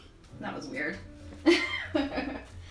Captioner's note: laughs